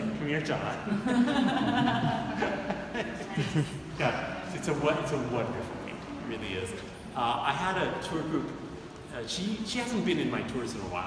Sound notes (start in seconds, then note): 0.8 audience laughing